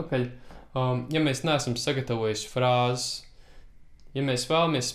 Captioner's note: licks